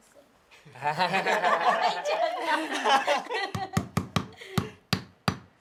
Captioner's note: laughs